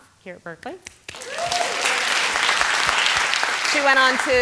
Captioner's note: applause